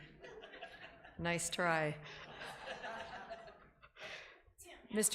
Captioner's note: laughing